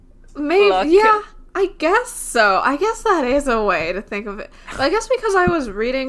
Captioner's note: laughing